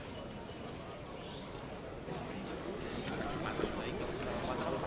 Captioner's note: man speaking native language